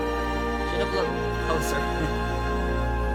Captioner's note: laughs nervously